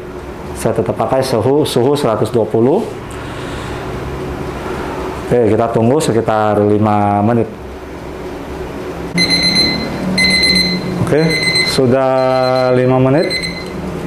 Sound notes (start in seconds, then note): 3.1 inhale; 9.1 beeping sound